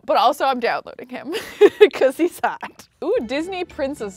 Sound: laughs

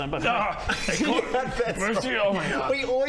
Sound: laughing

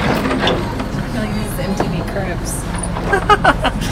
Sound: laughing

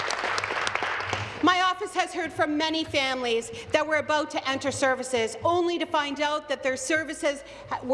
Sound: applause

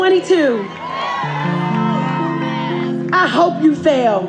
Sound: audience cheers

